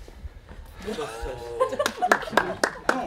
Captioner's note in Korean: ㅋㅋㅋㅋㅋㅋㅋㅋㅋㅋㅋ